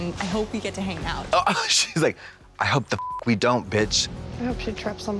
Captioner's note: beep